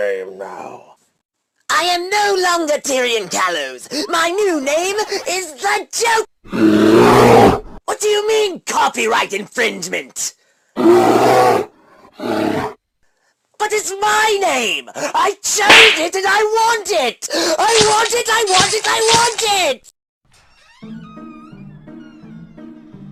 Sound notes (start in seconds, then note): 15.6 smack; 17.7 chop chop chopping